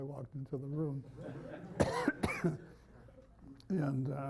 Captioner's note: laughter